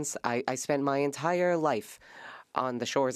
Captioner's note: speaking French